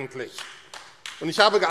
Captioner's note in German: Beifall AfD